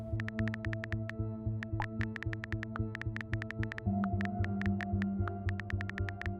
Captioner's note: futuristic music; typing sounds